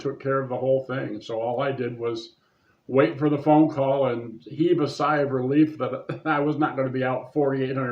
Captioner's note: laughs